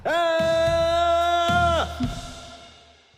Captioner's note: screams